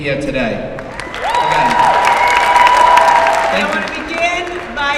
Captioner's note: applause